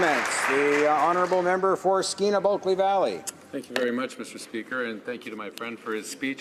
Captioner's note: some applause